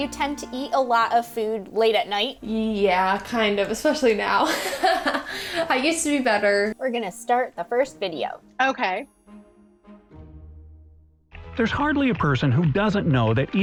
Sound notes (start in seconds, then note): 4.4 laughs